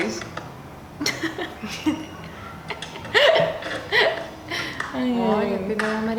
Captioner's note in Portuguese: risos